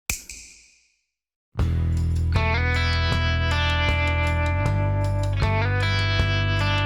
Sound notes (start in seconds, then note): 0.1 snap